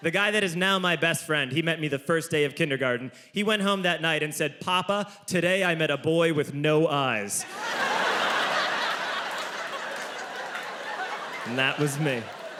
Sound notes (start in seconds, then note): 7.4 audience laughs